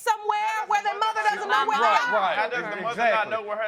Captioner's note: all clamoring